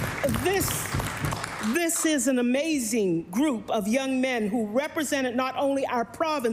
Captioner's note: applause